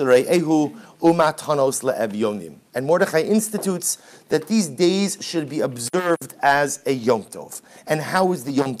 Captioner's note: Hebrew